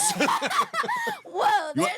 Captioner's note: laughing